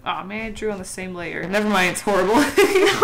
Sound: distorted voice

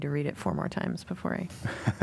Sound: laughter

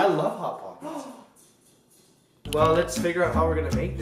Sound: gasps

